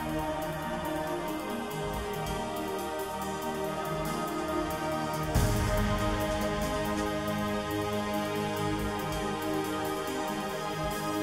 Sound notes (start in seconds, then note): none